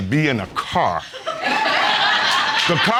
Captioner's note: audience laughs